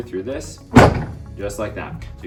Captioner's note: table pounds